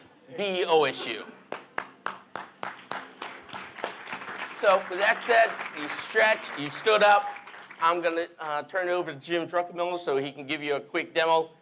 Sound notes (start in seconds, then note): 1.5 applause